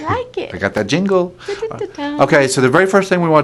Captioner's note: hums